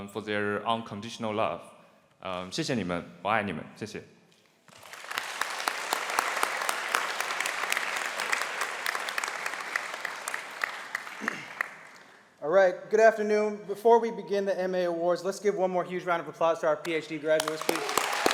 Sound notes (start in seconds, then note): 2.6 speaking Chinese; 4.6 applause